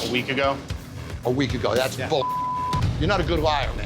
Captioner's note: beep